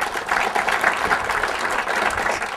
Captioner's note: applause